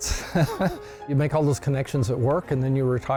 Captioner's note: laughs